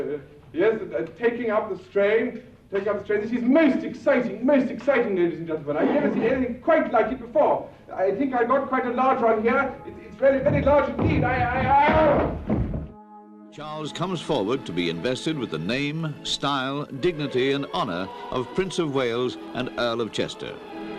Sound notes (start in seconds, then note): 10.6 yells; 13.2 voiceover